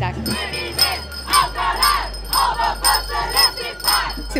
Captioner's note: crowd